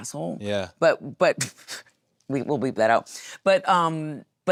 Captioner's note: laughs